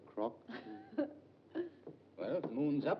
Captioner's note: June chuckles